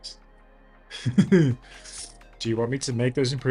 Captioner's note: laughs